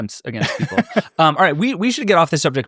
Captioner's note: laughing